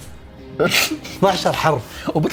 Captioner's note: chuckles